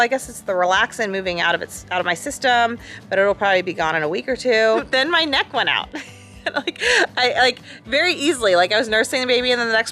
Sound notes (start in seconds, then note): 6.1 laughs